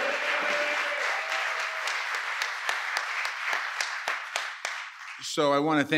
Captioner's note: applause